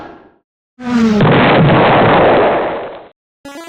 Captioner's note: vroom; exploding